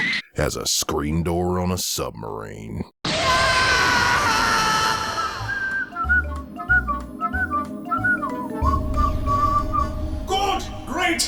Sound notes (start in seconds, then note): 3.1 Time Traveler screaming; 5.3 whistling